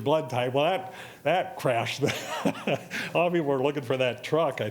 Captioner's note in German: laughs